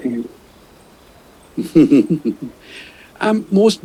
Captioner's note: chuckles